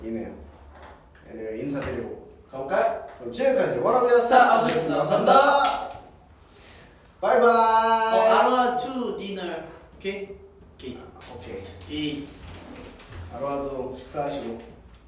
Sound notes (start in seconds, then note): none